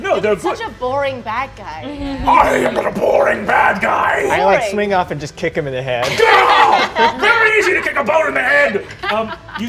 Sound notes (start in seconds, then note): 6.2 screaming